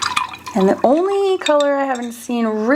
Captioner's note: water whirring